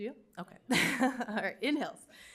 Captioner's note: chuckles